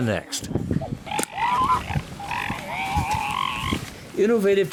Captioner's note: seals grunt